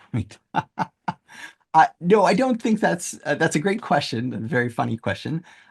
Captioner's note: laughs